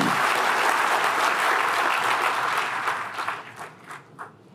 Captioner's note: applause